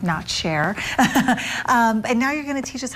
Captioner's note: laughing